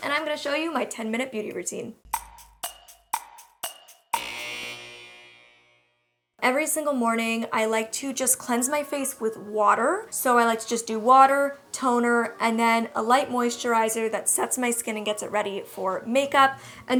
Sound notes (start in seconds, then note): 2.1 clock ticking; 4.4 buzzer